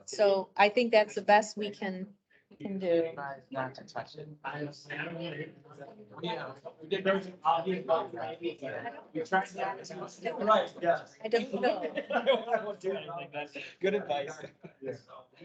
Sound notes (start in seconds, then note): 5.0 indistinct chatter; 8.7 indistinct chatter